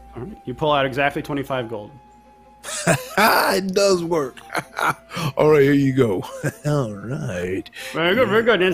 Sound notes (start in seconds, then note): 1.4 wolf laughs